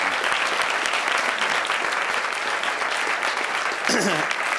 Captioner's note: applause